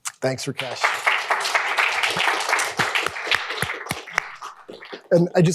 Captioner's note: applause